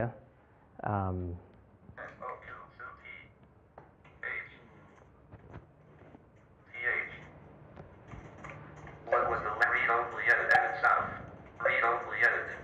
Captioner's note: computer speech